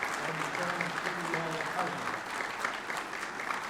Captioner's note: applause